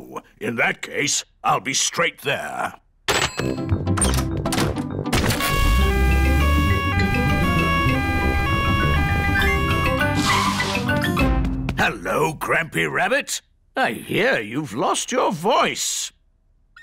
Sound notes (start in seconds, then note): 5.4 siren wailing; 16.6 squeaks